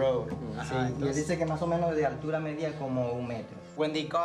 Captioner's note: speaking foreign language